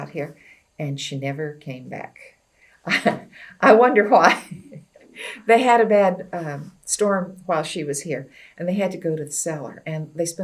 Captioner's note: laughs